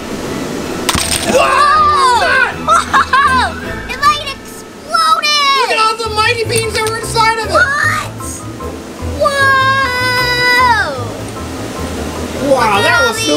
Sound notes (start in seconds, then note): 0.8 pop; 1.3 laughs loudly